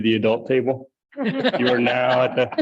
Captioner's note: light laughter